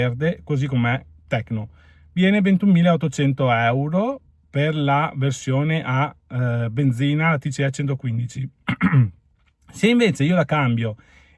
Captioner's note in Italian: schiarire la voce